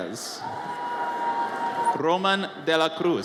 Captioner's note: audience cheers